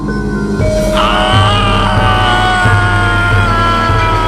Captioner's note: agonizing scream